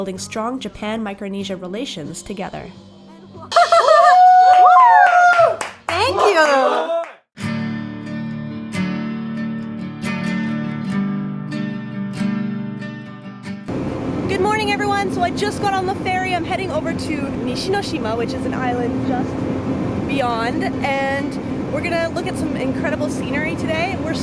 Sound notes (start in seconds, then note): 3.5 laughter; 3.7 cheering; 7.7 acoustic guitar music